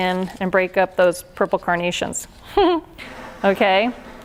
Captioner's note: laughs